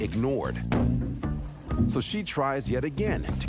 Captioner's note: banging on glass